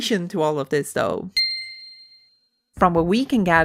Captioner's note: winking sound effect